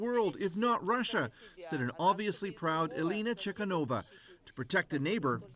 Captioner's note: speaking russian